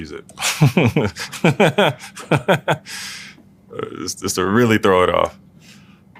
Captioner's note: laugh